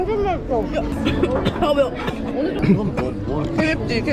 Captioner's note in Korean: 콜록콜록